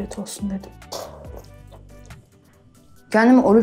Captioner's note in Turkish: Kahve içme sesi